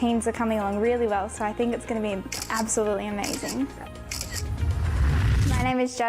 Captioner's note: camera clicking